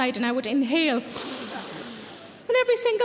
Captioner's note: Sarah inhales